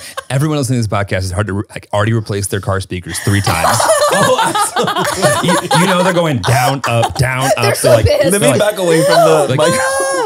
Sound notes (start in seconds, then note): 0.0 everyone laughs; 5.3 everyone laughs